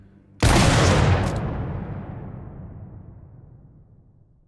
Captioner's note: gun bangs